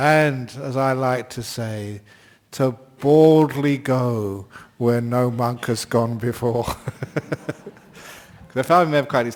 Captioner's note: laughs